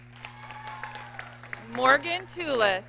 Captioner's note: audience cheers and applauds